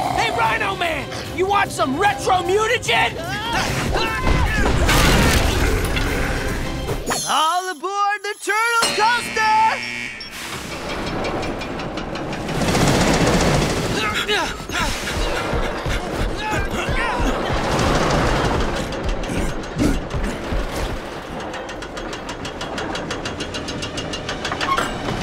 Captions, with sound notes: Hey, rhino man! You want some retro-mutagen? [thudding] All aboard the turtle coaster! [clanking] [grunting] [clanking]